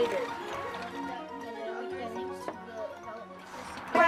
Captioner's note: children chatting